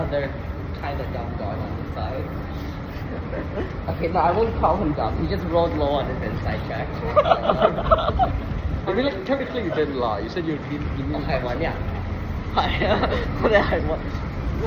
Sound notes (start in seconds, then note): 10.8 Cantonese